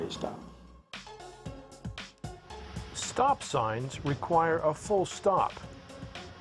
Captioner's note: voiceover